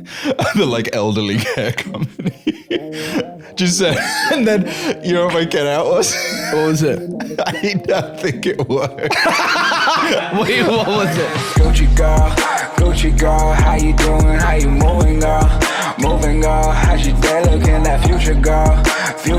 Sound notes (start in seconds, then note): 7.4 laughing; 9.4 laughs; 11.6 outro music